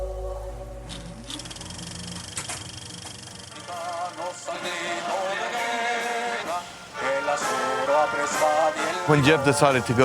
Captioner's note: projector sound